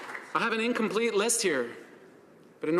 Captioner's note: applause